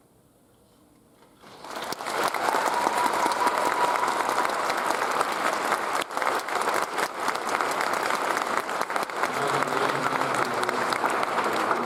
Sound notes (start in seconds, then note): 1.5 audience applauds and cheers